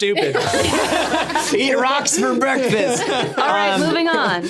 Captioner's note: all laughing